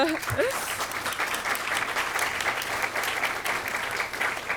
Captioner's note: students applauding